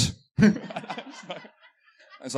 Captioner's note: laughter